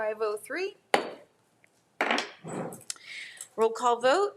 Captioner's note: gavel thudding